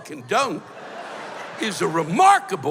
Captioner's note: laughter